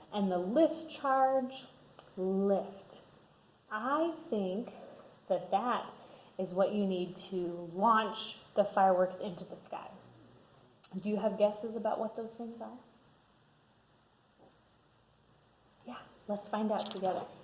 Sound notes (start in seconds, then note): none